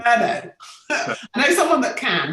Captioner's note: both laughing